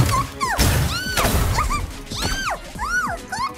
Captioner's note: shrieking; shrieks